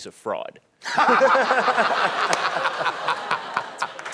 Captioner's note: laughing